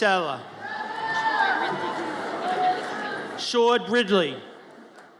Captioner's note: audience cheers